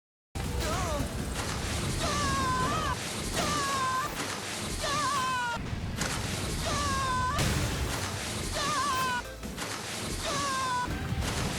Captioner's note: mega man dying repeatedly